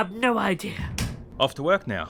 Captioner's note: door bell chimes once more